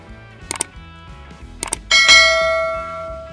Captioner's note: bright jazz music continues; mouse clicks; bell chimes